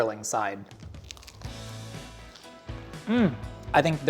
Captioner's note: food crunches